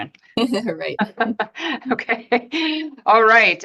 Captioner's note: laughs